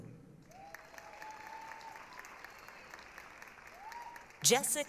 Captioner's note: applause, cheering